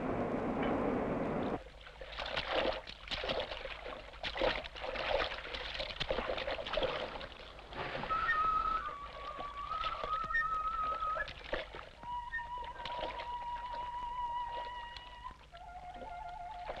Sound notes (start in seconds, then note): 1.5 water sloshing; 8.7 soft wind music